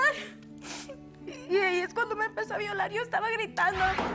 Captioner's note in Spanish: Solloza